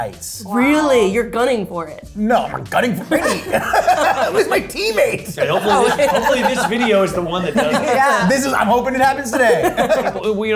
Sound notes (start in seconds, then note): 3.2 laugh; 9.7 laugh